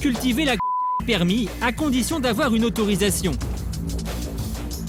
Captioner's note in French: bip